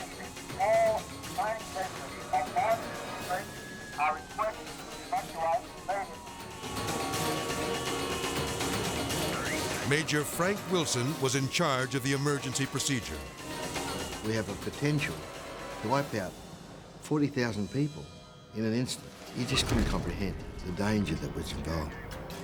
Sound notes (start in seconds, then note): 6.4 horns honking; 6.4 intense music